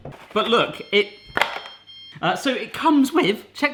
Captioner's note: beeping